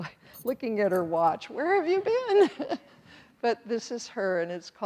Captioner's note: chuckles